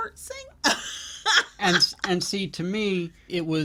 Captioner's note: laughs